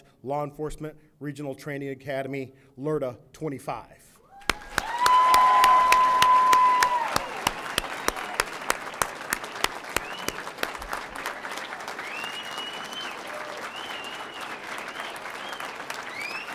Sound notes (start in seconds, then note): 4.8 audience applauding; 4.8 audience cheering; 12.1 audience members whistling